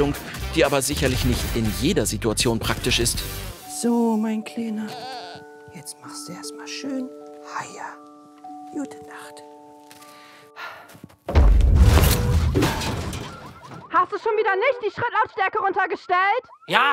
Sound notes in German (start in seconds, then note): 12.0 Rumpeln, Autoalarmanlage